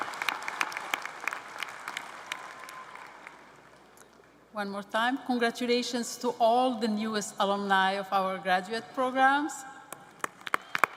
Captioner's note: applause